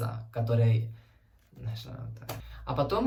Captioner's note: in Spanish